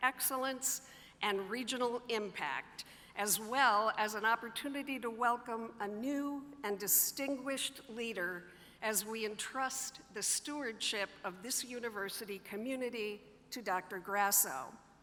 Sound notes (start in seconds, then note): none